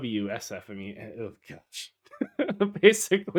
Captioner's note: laughs